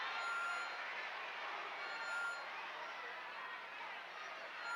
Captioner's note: crowd chattering